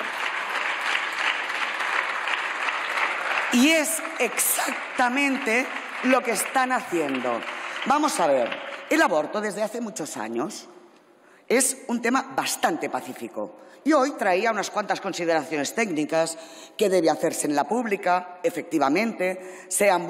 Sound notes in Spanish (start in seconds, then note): 0.0 Aplausos